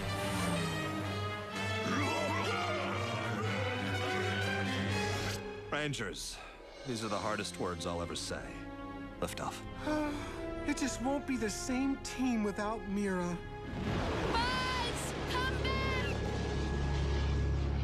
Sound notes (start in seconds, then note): 2.8 angry muttering; 9.8 heavy sigh